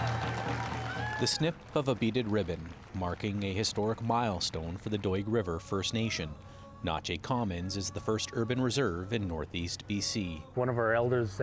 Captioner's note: cheering